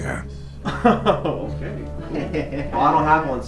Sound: laughter

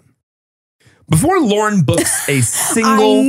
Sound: laughs

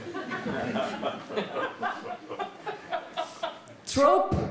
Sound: audience laughing

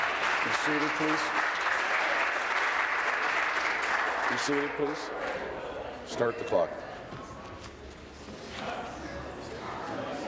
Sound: applause

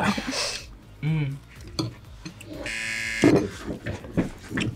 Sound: laughs; buzzer rings

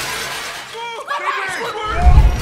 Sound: yelling

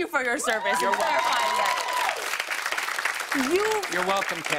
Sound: cheers and applause

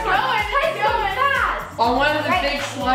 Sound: shouting over each other

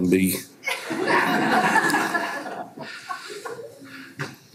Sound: everyone laughs

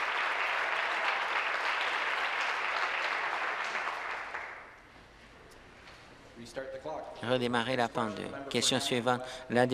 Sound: applause

